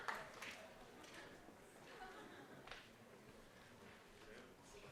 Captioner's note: cheering